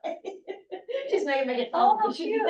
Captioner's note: chuckling; laughter